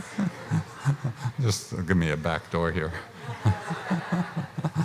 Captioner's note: laughs